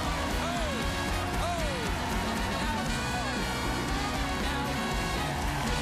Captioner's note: cheers and applause